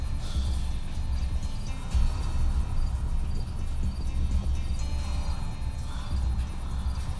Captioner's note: rattling breaths